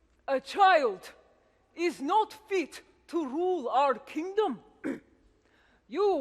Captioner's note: clears throat